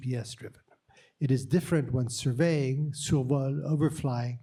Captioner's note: french